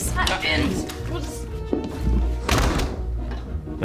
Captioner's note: door opens, closes